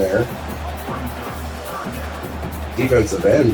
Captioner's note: crowd Noises